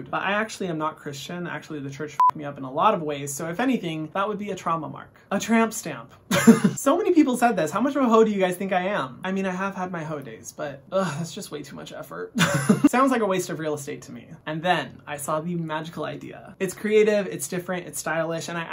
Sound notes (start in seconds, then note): 6.4 laughing